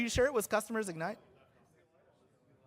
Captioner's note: off microphone